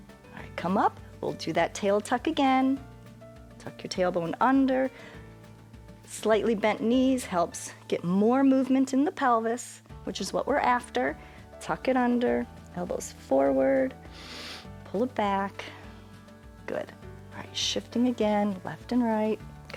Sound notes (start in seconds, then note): 14.1 inhales